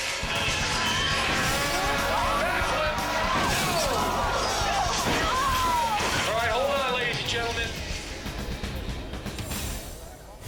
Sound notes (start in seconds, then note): 4.4 crowd screaming